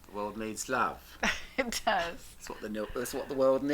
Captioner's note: laughs